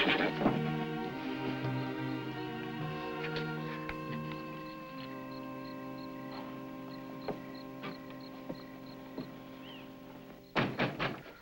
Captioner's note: horse neighs; knocks